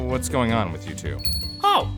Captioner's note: bell ring